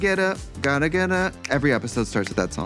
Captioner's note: snaps fingers